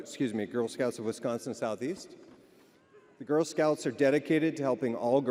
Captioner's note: none